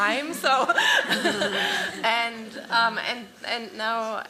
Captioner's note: laughter